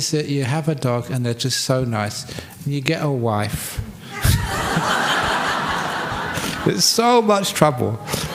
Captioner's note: laughter